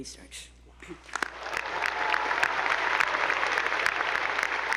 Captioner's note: attendees applauding